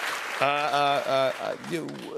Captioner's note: applause